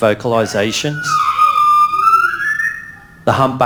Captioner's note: whale vocalising